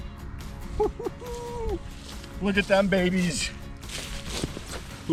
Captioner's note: laughs